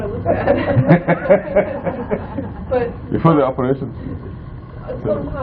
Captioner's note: laughing